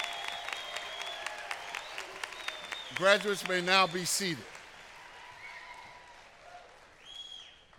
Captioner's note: applause